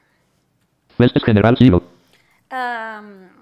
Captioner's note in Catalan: veu robòtica